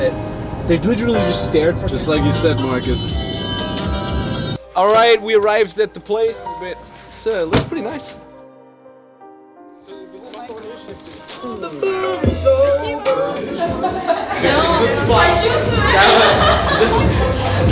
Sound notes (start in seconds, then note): 3.7 radio plays; 9.9 group chatting; 12.9 group laughs; 13.1 upbeat music; 14.8 groups chatters